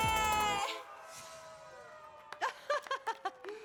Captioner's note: applause